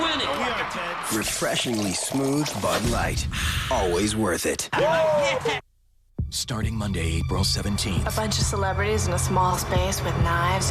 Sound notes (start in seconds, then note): 4.7 men cheering